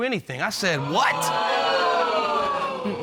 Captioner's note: audience exclaiming